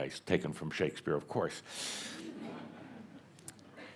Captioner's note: a few chuckles